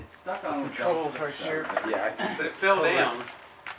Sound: group indistinctly chattering

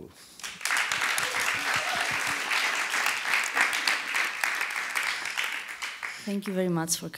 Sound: audience applause and cheering

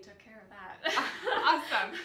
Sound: laughing

